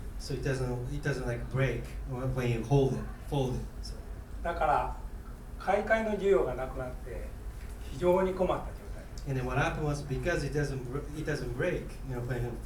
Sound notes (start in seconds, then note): 4.6 speaking in foreign language